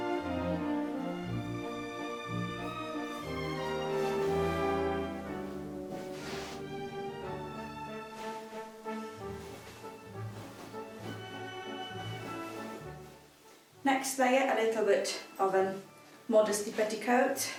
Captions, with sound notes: (foot steps) (fabric rustling) Next layer, a little bit of a modesty petticoat.